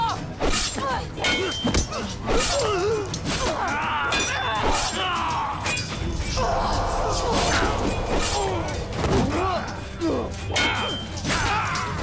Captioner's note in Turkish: Saldırma Sesi